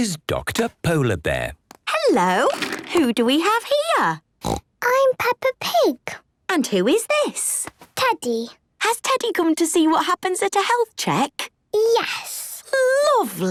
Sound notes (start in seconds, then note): 4.4 snorts